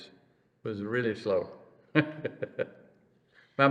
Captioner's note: laughs